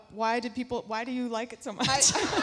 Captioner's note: laughs; audience laughing